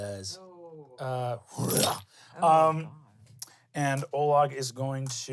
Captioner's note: growls